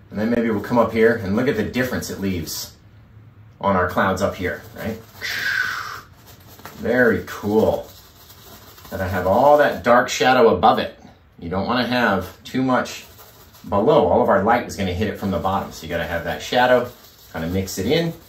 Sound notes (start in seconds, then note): 3.8 painting Noise